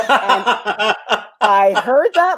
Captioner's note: laughs